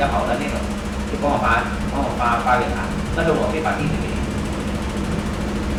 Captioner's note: speaking in Mandarin